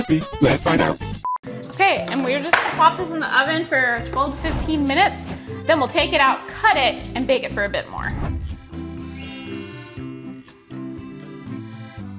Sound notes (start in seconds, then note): 8.8 lighthearted music; 9.0 bells chiming